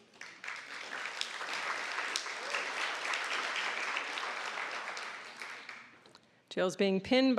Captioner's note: applause